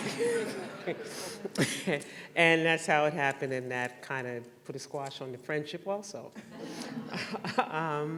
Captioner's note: laughter